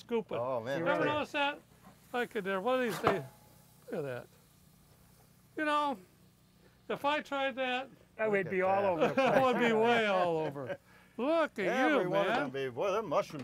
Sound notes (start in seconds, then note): 2.7 scraping; 11.0 laughter